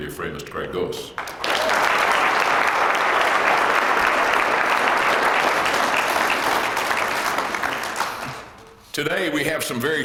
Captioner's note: applause